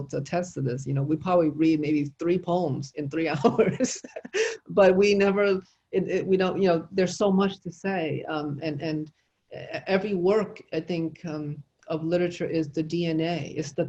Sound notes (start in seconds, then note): 3.4 chuckles